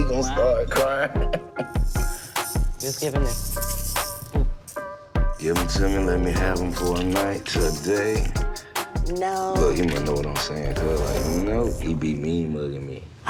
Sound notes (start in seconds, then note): 0.8 laughing; 2.0 toy rattles